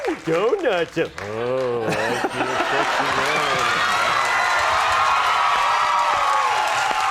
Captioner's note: cheering drowns out speaker